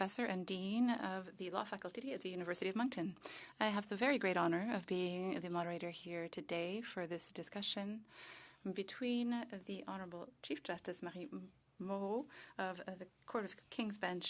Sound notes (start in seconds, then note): 5.4 speaking French